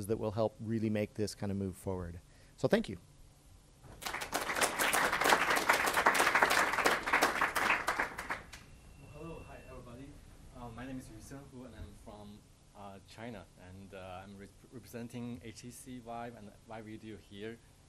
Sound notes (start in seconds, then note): 3.9 audience applauds